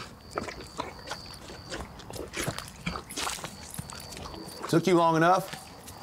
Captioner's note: horse hooves clopping